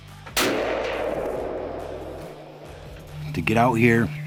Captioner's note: gun firing